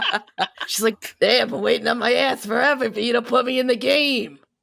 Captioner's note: crone voice